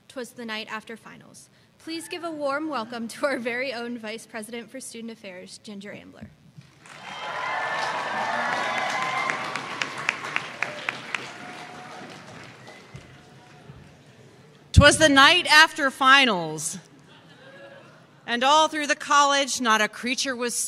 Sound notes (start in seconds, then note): 6.8 cheers and applause